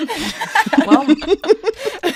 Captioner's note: laughter